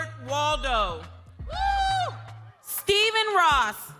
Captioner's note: crowd cheering